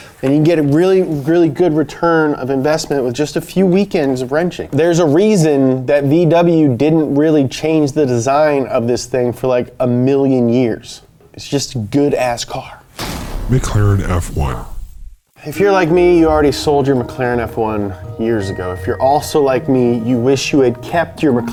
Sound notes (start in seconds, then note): 13.6 voiceover